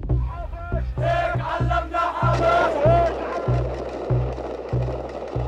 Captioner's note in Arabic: يهتفون بلغة أجنبية